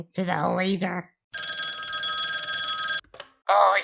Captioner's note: phone rings